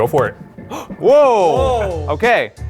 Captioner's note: cheering